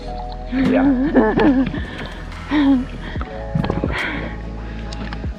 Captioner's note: giggles